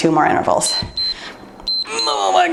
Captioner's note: timer beeps